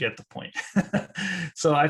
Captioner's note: laughs